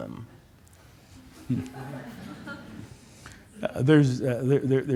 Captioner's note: laughter